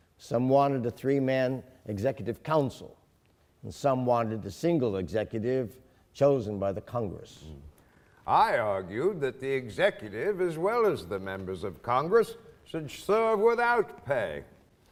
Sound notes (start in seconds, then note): none